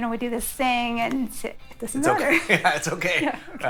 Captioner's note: awkward mumbles, trailing off